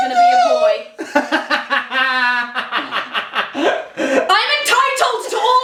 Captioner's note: laughs